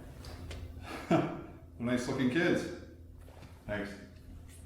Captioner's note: chuckling